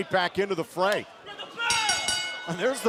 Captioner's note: bell ringing